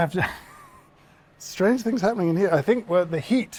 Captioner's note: chuckles